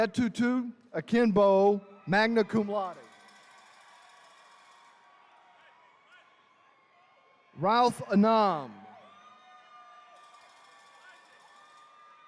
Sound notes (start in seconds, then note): 3.4 attendees cheering; 8.9 attendees cheering